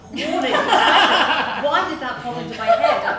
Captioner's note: laughs loudly